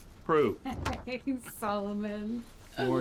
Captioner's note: chuckles